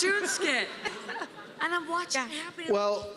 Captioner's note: laughter